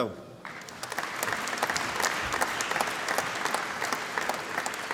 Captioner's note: applause